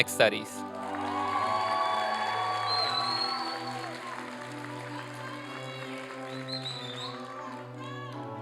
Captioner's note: applause and cheering